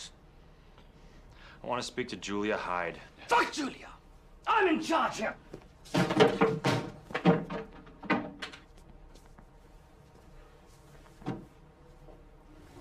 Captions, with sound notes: - I want to speak to Julia Hyde. - Fuck Julia! I'm in charge here. (clatters)